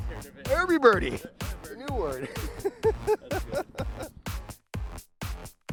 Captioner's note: laughs; upbeat music